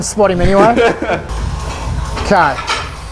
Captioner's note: laughter